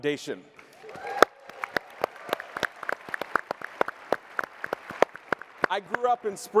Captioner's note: applause and cheering